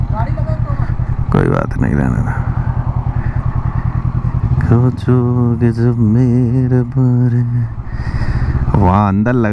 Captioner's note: humming